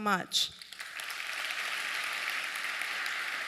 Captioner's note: applause